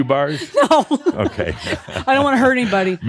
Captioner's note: giggling